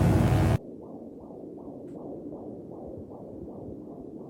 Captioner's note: electric buzzing; heart beating